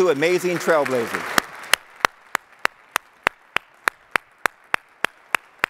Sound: audience applauding

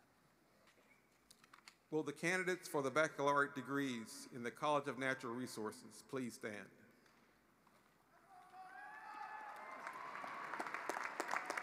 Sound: applause

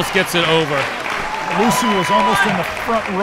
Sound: audience applauding

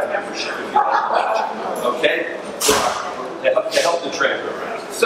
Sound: audience laughs

